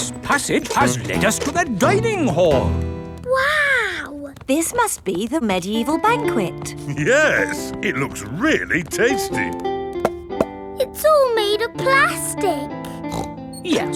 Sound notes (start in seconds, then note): 9.8 hollow taps; 12.8 snorts